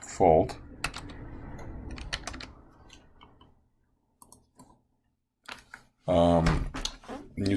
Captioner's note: typing Sounds